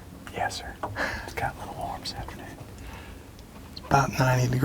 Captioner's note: laughs